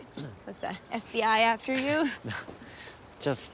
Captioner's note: Anthony chuckles